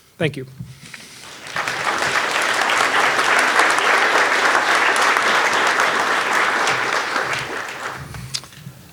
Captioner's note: audience clapping